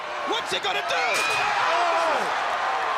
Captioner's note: crowd cheering